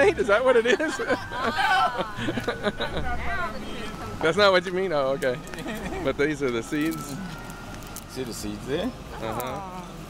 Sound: laughing

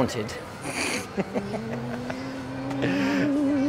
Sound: laughter

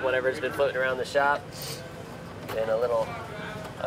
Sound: sniffling

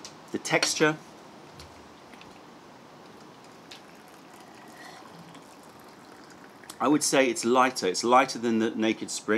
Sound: sips tea

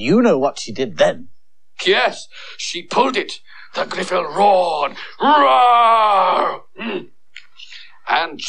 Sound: makes Roar Sound

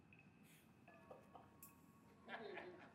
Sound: man laughing

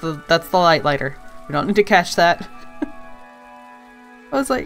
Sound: laughs

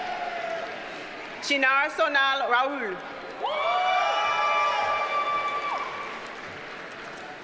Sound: audience cheers and applauds

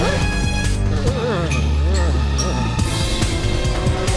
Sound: groaning

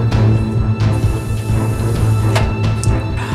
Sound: water is slurped

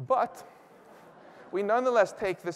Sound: laughter

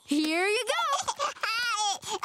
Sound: laughing

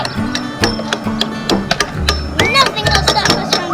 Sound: tools hammering

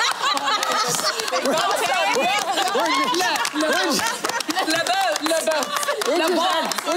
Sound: laughter

